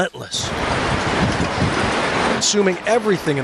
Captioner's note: sea waves